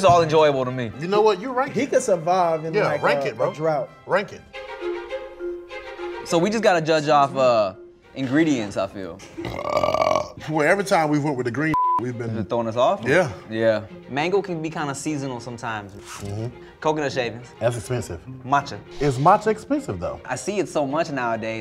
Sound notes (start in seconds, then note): 5.0 soothing music; 9.3 burps loudly